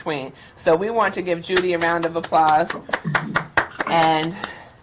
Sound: claps

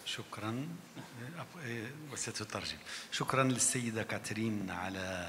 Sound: speaks in foreign language

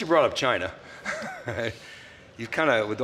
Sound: laughs

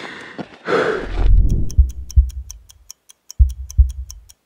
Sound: clock ticking

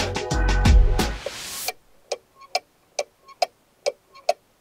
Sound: ticking sound

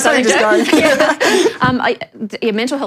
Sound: laughter

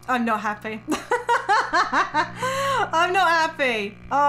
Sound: laughing

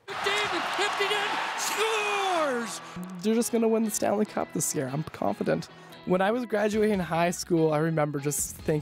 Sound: cheers and Applause

